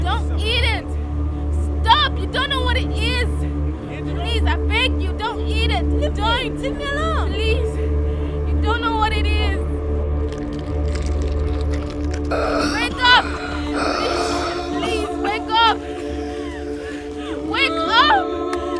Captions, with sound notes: Come on, give me some. - Don't eat it! Stop, you don't know what it is! Please, I beg you, don't eat it! - Leave me alone! - Please. You don't know what it is. (crunching) Wake up! (wheezing) Please, please, wake up. (ominous music) Wake up!